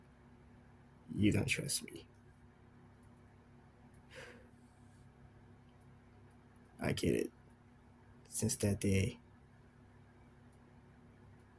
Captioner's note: sigh